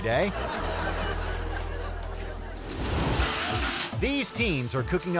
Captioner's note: audience laughing